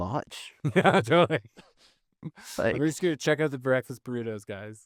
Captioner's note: laughing